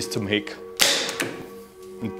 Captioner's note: popping